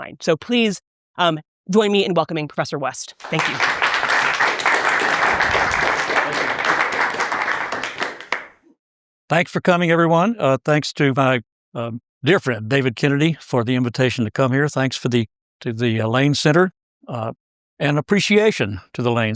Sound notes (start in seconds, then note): 3.2 applause